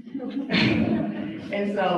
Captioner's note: audience laughs